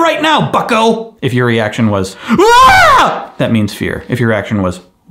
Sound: screaming

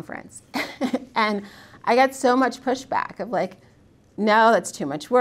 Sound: laughs

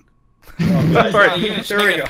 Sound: laughter

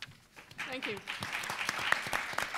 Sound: audience applauding

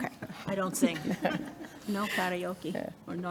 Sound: everyone chuckling

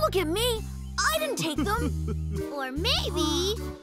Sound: chuckles

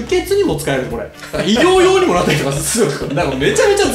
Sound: laughs

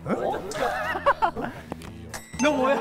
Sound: huh??? just laughs haha

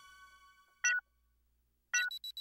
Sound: beeping

